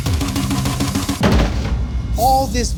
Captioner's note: container thuds